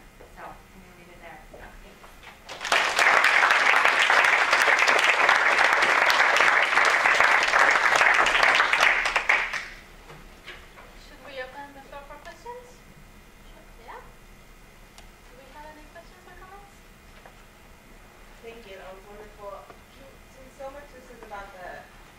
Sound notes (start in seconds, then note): 2.4 applause